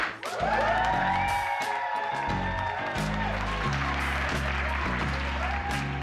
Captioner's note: group cheering; upbeat music